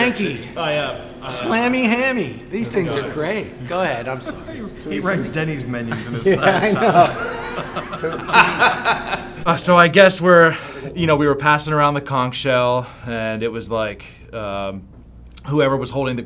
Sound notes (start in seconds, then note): 6.1 laughs